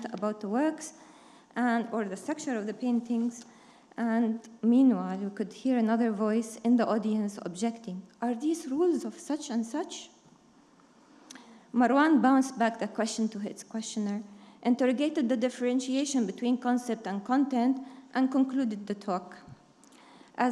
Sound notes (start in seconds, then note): none